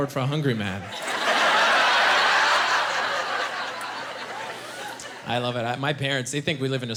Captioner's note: laughing